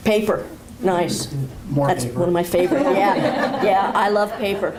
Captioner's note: laughter